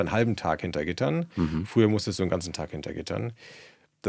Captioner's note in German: räuspern